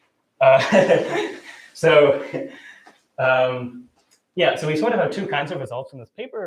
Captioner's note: laughs